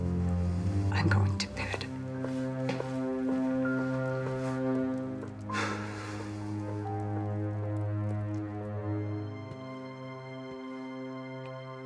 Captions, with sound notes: - I'm going to bed. (Alan sighs angrily) (ominous music)